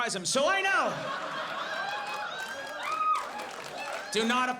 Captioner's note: audience laughs